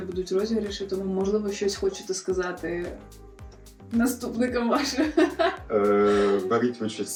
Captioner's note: laughs